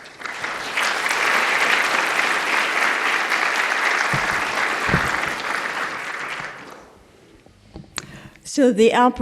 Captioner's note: applause